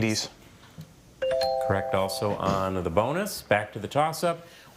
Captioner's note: scoreboard dings